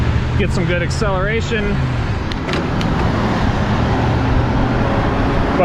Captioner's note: wheels whirring